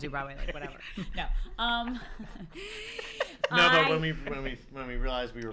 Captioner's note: laughter